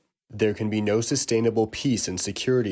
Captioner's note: through translator